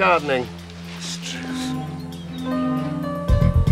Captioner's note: muttering